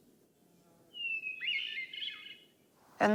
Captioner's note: bird singing